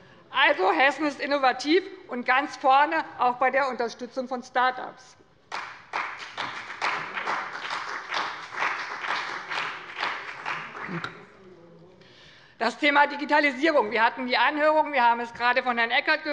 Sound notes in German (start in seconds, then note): 5.5 Beifall bei dem BÜNDNIS 90/DIE GRÜNEN und der CDU